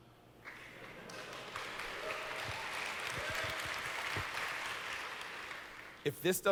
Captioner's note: audience cheers